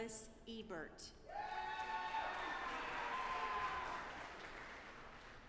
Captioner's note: audience applauding